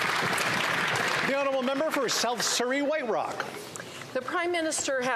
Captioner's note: some Applause